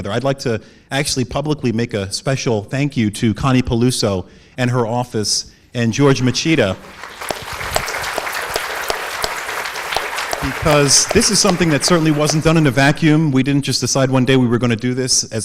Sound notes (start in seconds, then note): 6.1 audience applauds